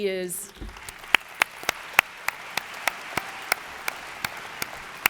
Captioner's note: audience applauds